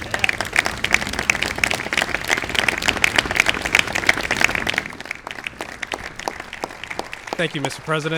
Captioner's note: applause